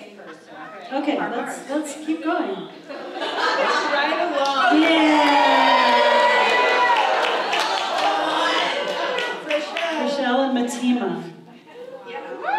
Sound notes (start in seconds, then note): 6.2 applause